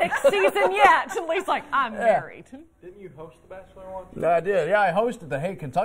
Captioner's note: laughter